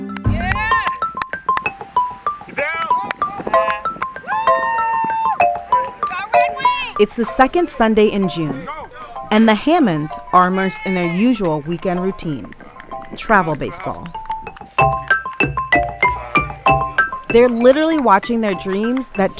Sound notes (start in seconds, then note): 4.2 cheers; 14.3 gentle percussion music